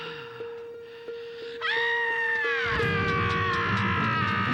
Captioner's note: yells